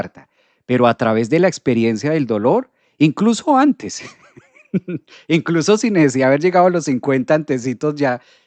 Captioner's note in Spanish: risas